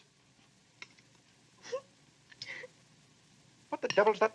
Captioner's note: Annie sobbing